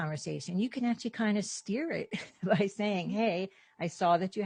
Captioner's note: chuckles